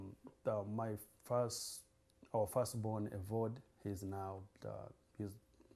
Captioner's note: non-english